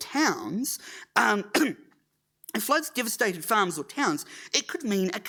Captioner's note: clears throat